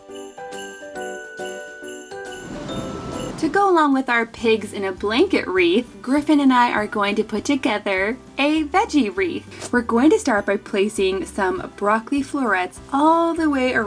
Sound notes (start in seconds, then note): 0.2 jaunty music; 2.4 air whooshes